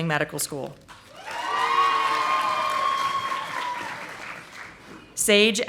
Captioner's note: audience applauding